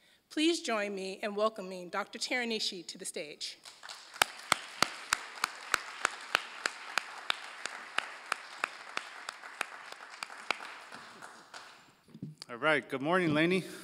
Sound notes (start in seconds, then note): 3.6 applause